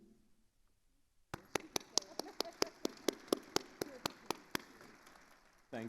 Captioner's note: attendees applauding